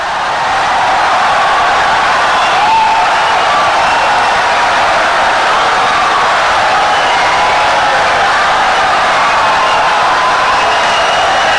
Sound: wild applause and cheering for 17 seconds

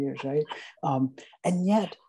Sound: laughing

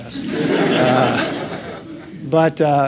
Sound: laughter

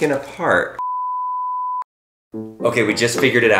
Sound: beep

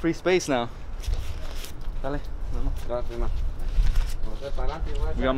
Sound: speaking in Spanish

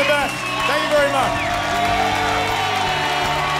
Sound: cheering and applause continues

